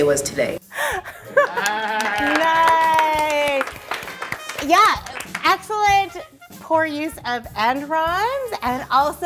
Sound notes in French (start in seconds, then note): 1.4 Applaudissements